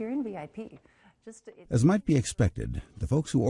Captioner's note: voiceover